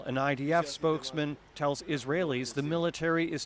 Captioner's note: speaking alternate language